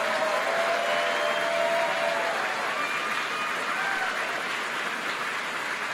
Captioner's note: applause and cheers